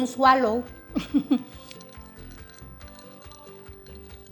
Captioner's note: laughs